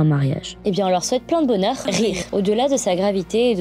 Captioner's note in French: rires